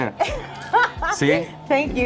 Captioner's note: laughing